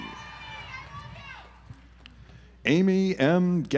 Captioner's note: audience applauds